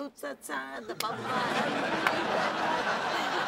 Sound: laughter; laughs

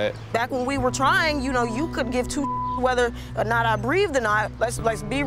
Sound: beep

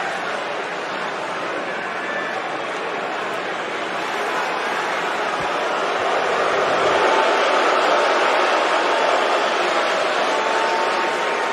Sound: crowd chanting

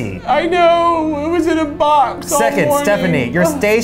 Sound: crying

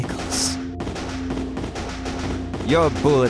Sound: guns firing

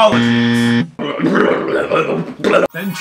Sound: grunting noises

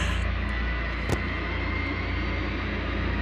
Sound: groans; thud

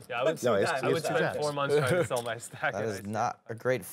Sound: table chatter

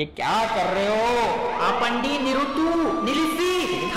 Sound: screams stop in multiple languages

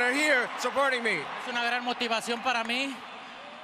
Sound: speaking Spanish

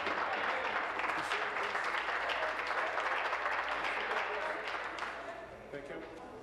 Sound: applause

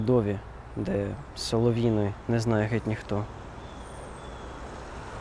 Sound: Ukrainian language

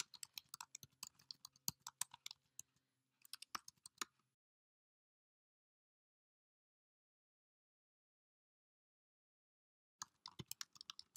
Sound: typing noises continue

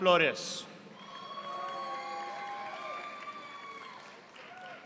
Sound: audience applauding

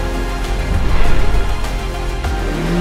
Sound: WRAITH sirens

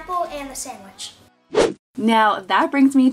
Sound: whooshing

